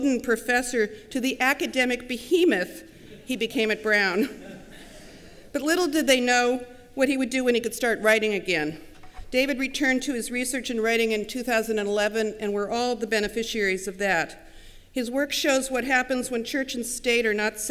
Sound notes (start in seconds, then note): 4.1 laughter